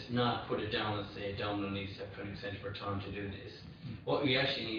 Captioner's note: audio distorts